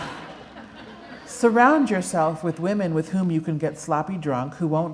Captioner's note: laughter